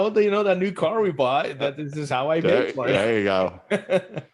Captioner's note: laughs